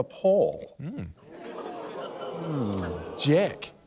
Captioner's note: laughter